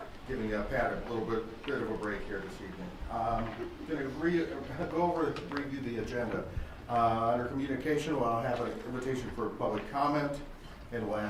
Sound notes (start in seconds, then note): none